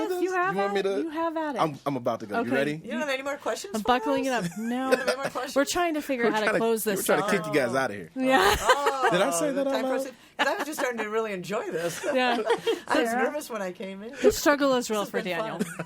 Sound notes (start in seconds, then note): 8.4 others laughing